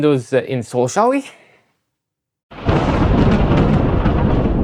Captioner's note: thunder